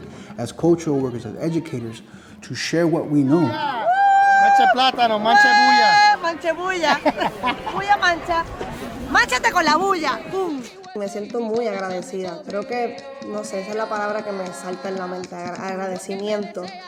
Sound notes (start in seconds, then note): 6.6 conversation in Spanish